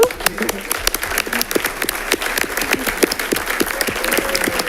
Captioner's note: audience applauding